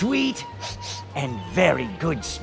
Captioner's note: sniff sniff